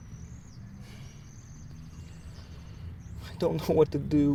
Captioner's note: sighs